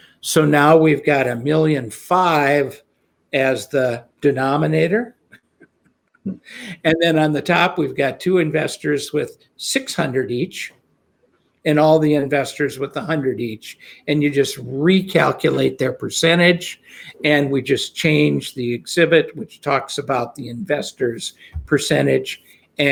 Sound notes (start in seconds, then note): 6.2 chuckles